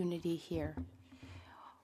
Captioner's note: speaking French